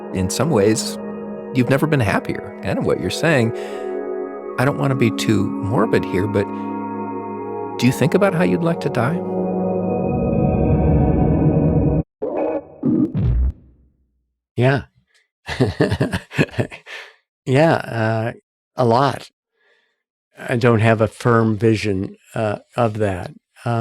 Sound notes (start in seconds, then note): 15.4 chuckling